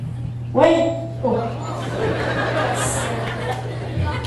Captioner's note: audience laughing